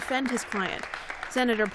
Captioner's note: applause